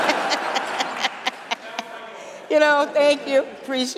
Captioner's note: laughter